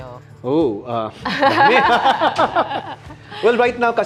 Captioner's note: laughs